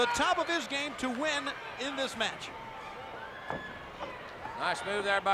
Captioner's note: body thudding